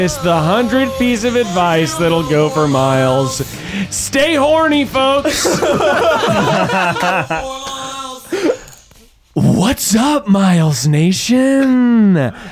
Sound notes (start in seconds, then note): 5.2 laughing